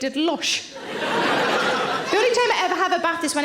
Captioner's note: audience laughing